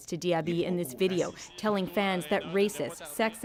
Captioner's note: speaking French